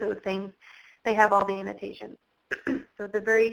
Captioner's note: clears throat